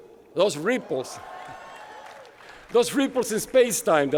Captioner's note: applause